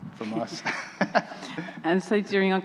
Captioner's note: chuckling